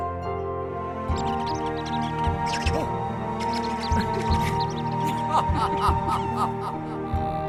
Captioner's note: squirrels chirping, laughing